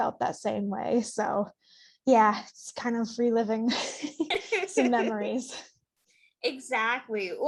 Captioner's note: laughs